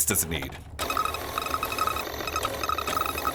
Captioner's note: printer starting up